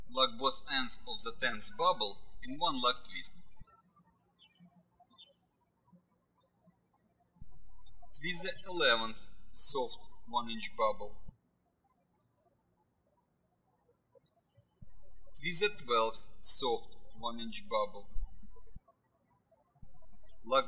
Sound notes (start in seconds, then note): 4.3 birds chirping